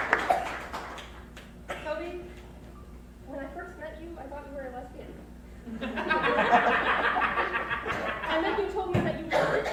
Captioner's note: crowd laughs